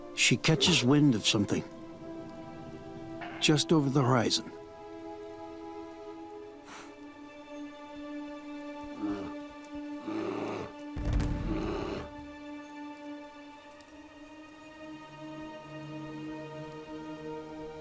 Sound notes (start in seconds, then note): 6.6 bear huffs; 9.8 bear growls